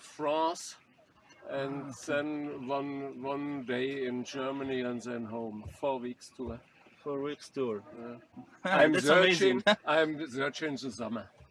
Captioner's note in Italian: Risate